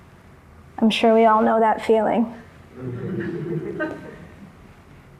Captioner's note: laughter